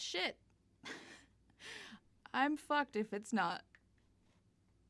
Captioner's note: half-laugh